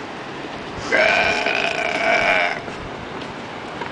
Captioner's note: demonic belch